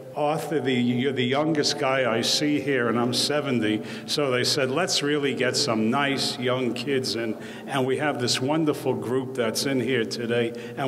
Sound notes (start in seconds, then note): none